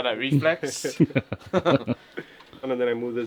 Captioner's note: laughing